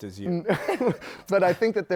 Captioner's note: laughter